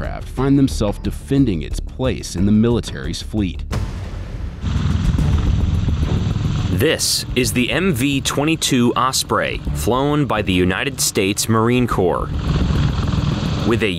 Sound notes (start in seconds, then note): 3.6 dramatic music; 4.5 blades rumbling